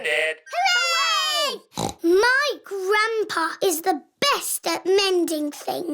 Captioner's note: snorts